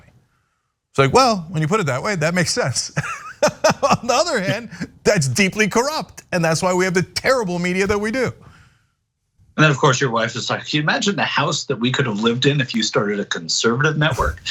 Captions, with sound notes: So well, when you put it that way, that makes sense. [LAUGH] On the other hand, that's deeply corrupt, and that's why we have the terrible media that we do. >> And then, of course, your wife's just like, can you imagine the house that we could have lived in if you started a conservative network?